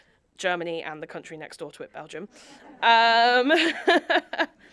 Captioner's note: audience laughing; laughs